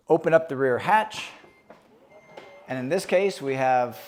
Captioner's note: hatch beeping and whirring